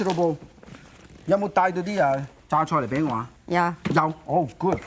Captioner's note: foreign language